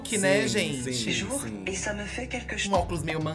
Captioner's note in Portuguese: narração em francês